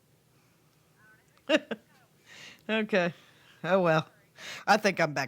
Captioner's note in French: gloussements